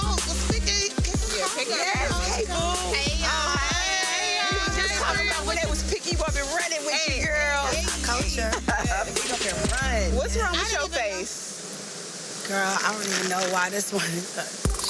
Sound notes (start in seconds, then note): 8.4 woman chuckling